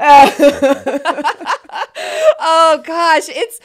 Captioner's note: both laughing